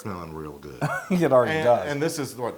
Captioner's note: laugh